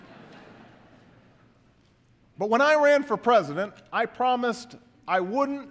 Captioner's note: laughter